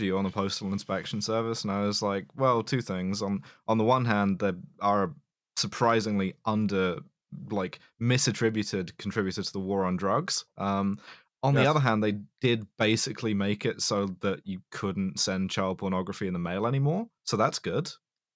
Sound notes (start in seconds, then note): none